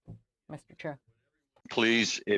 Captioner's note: speaking French